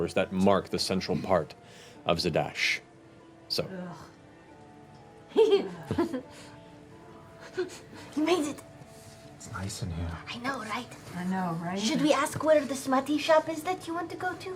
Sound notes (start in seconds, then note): 5.3 giggles